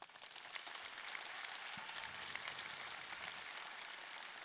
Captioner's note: audience clapping